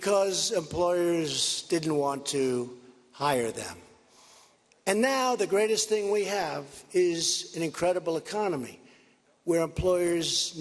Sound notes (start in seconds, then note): none